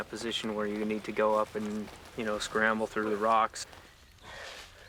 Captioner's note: voiceover